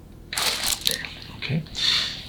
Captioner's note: loud crack